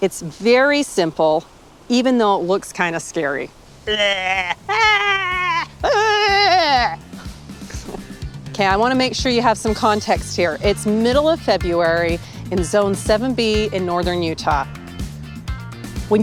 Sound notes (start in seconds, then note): 6.6 laughing; 14.8 upbeat music